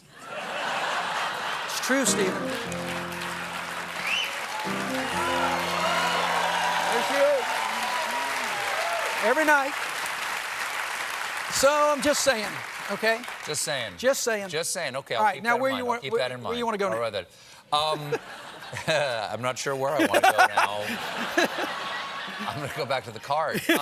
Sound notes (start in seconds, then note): 0.0 laughter; 1.1 applause; 1.1 cheers; 19.9 laughter